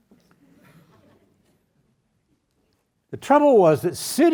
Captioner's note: audience laughs